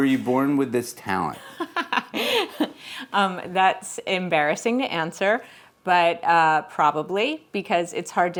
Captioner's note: laughs